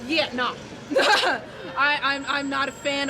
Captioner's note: laughs